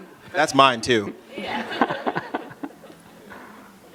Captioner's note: laughter